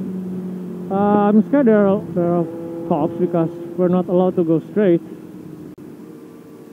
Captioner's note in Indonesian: motor